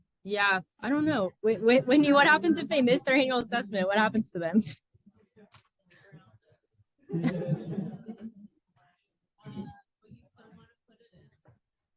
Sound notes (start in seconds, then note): 7.0 laughter